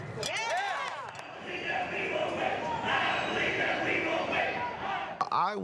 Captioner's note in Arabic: المتظاهرون يهتفون